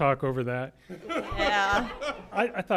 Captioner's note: laughter